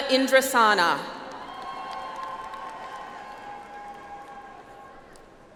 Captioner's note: audience applauds